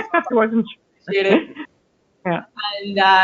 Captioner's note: laughing